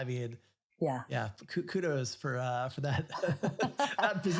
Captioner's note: both laugh